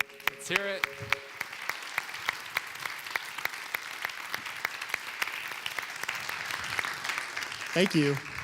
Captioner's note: clapping